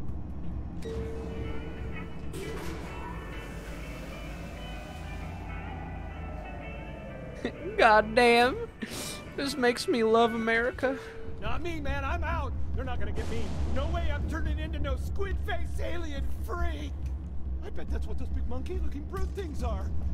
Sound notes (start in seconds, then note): 0.5 elevator ding; 8.0 with a country accent